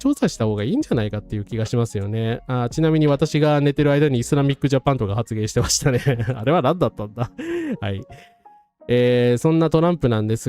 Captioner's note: laughs